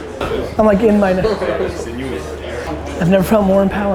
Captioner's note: laughs